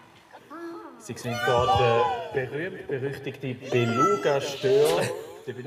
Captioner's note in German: Übers Mikrofon